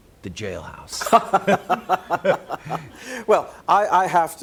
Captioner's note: laughs